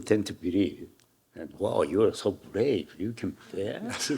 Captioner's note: Hiroshi chuckling; audience laughing; chuckling